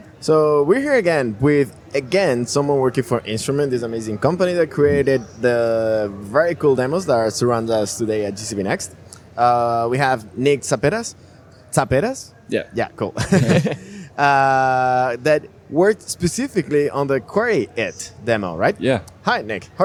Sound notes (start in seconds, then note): 13.3 chuckle